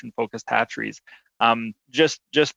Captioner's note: chuckles